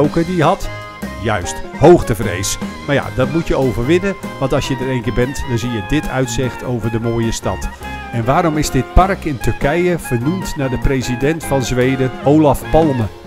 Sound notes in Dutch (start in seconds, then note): 2.9 Voiceover; 8.0 Voiceover